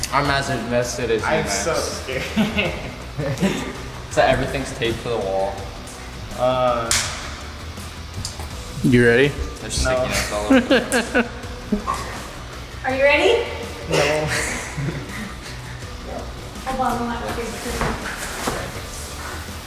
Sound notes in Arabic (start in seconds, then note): 2.1 يضحك; 10.1 المصور يضحك